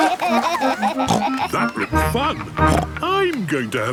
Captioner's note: giggling; snorts